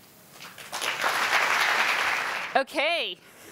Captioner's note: audience applauding